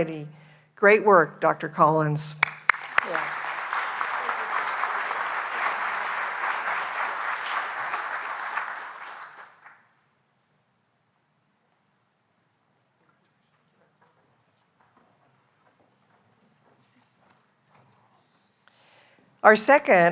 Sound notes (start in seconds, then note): 5.3 applause